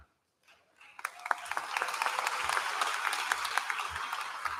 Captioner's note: applause